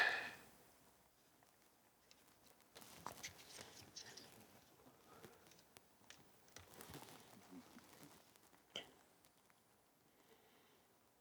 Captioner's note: silence